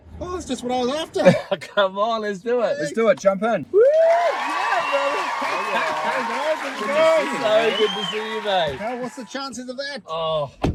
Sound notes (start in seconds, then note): 3.8 cheers; 3.9 audience cheers and applauds